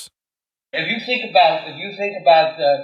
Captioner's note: soundbite of archived recording